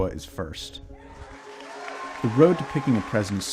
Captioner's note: crowd cheering